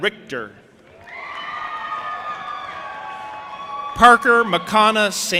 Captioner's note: audience applauding and cheering